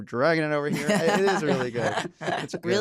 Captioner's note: laughter